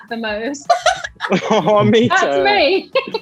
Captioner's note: Jessie laughs